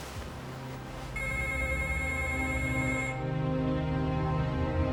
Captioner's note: phone rings